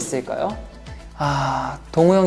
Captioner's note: sigh